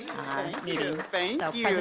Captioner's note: applause